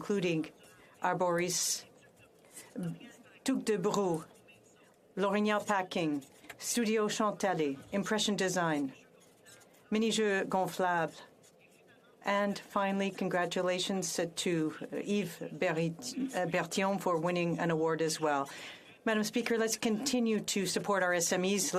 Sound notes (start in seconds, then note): 8.2 speaking French